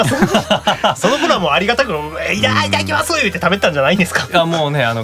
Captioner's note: nom